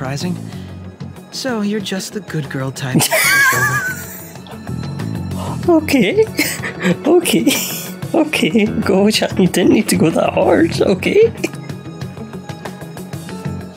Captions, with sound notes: [Laughs] Okay, Okay Goro-chan you didn't need to go that hard, okay?